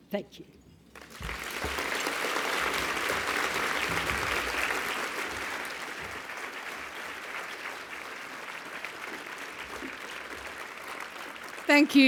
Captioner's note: applause